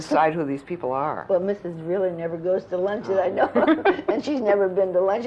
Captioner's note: laughter